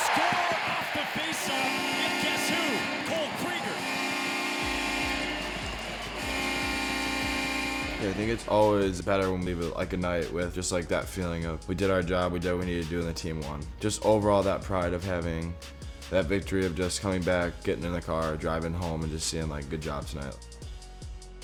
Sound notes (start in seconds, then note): 3.9 horn blasting